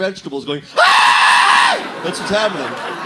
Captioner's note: screams of agony